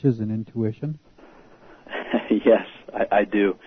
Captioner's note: laughter